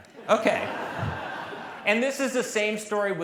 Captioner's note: laughter